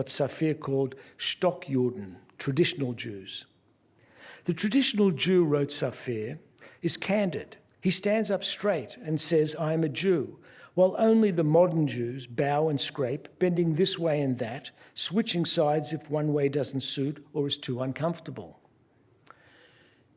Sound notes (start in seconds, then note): 1.0 non-english speech